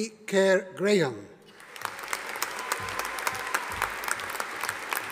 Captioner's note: audience applauding